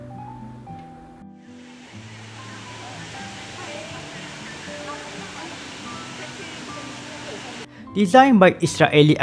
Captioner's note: waterfall